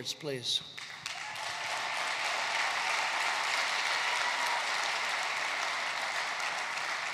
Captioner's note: applause